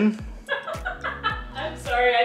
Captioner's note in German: lacht